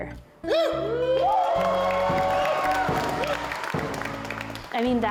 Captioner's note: people cheering and applauding